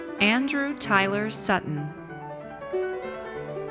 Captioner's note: none